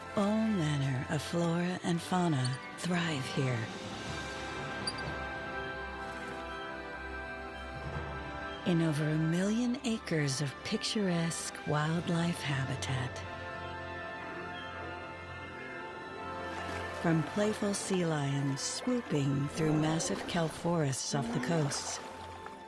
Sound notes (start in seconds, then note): 3.7 squirrel chitters